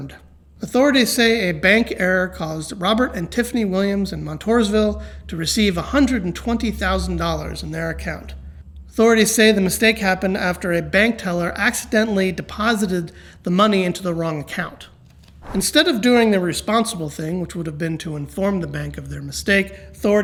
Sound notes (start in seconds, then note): none